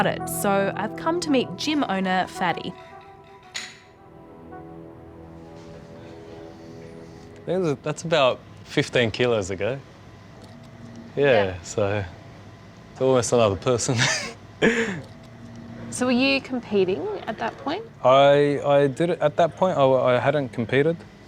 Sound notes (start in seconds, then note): 13.9 laughs